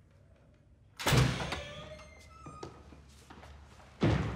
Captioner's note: door creaks